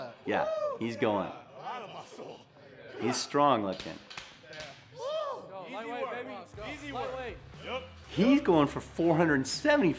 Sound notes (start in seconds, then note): 3.7 slapping